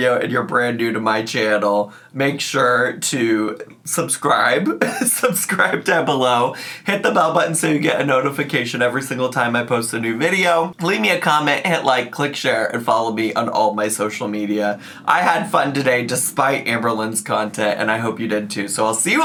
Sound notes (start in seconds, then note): 4.7 laughs